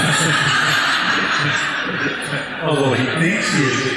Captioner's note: laughter